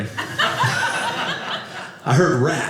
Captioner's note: audience laughing